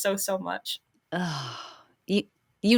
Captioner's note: sighing